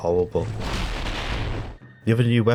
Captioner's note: stock explosion sound at ear rape volume